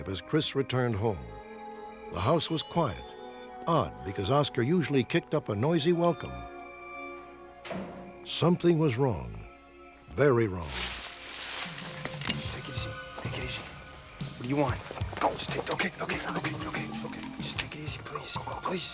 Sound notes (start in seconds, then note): 10.8 leaves rustling; 12.1 gun cocking